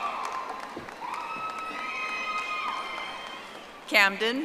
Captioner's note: audience applauding